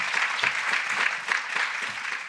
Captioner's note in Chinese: 掌聲